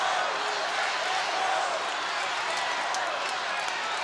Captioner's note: crowd cheering